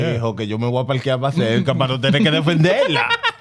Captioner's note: speaking In Foreign Language